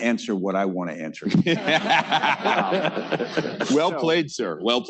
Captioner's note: laughter